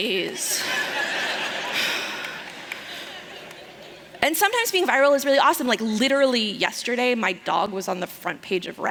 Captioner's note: laughter